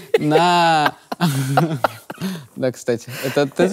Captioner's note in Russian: смеются